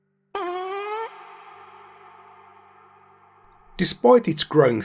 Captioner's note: parp